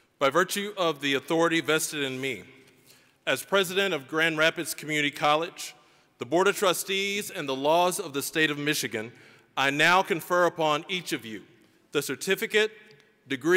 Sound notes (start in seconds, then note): none